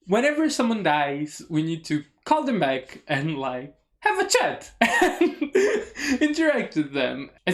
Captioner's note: laughs